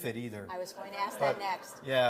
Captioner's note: laughter